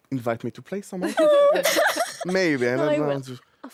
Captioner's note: all laugh